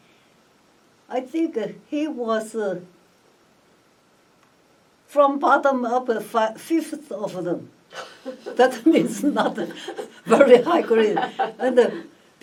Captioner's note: all laugh